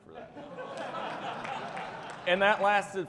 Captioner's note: audience laughing, clapping